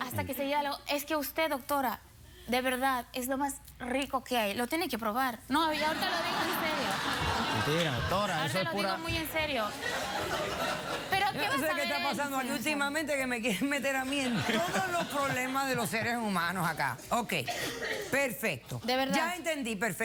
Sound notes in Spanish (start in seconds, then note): 5.8 risas